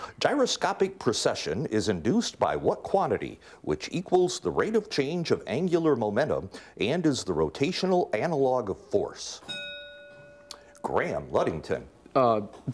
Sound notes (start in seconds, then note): 9.4 bell rings